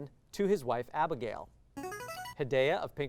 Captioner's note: signaling device tone